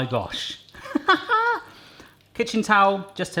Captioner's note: laughs